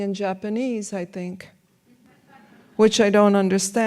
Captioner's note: audience laughs